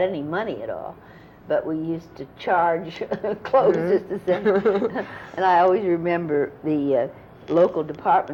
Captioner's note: laughter